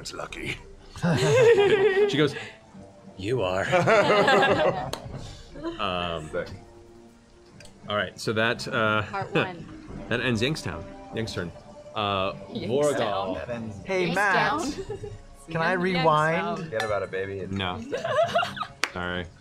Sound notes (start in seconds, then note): 3.6 laughter